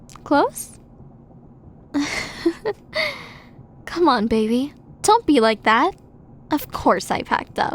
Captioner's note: giggle